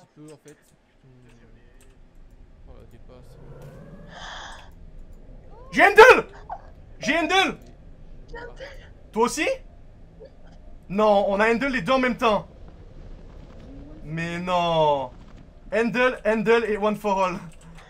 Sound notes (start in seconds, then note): 4.0 taking a big breath of air; 15.1 laugh